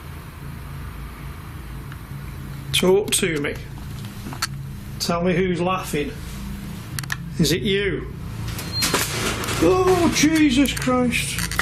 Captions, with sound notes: Talk to me. Tell me who's laughing. Is it you? (beeping) Oh Jesus Christ.